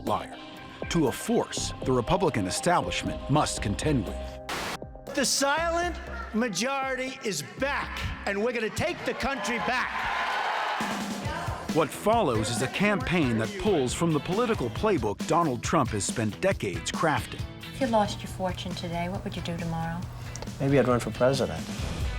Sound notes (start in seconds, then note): 8.3 cheers and applause